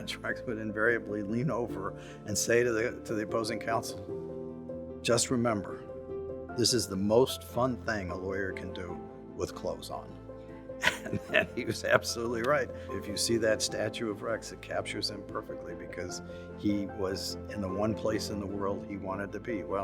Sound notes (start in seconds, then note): 10.8 laughs